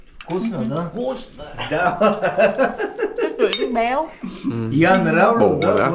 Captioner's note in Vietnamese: Tiếng cười